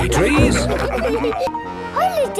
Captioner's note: all laughing